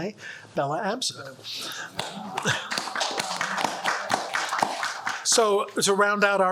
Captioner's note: audience applauds